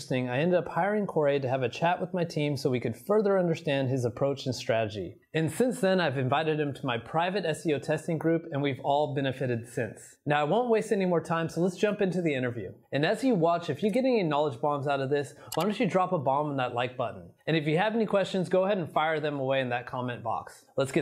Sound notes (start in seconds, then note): 15.5 mouse clicks